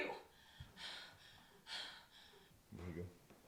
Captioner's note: pants